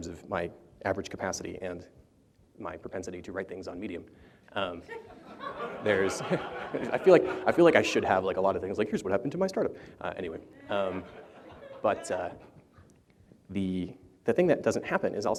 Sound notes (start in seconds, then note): 4.8 laughter; 4.9 chuckles; 10.6 laughter